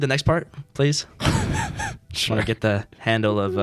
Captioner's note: laughing